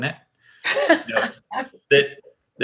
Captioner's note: laughs